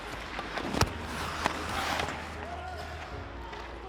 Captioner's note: skates whoosh